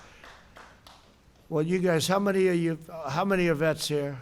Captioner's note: applause